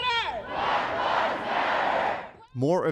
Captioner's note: crowd in unison